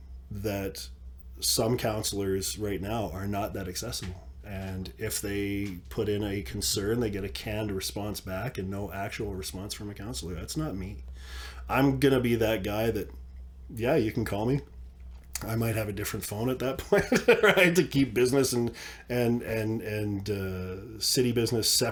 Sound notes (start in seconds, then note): 16.8 laughs